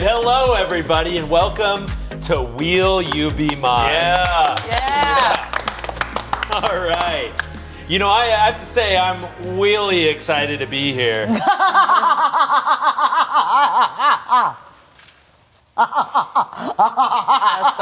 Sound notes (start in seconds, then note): 5.7 everyone applauding; 6.7 laughing; 11.3 cackling; 15.8 continues cackling